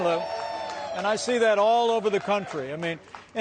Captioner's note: cheers and applause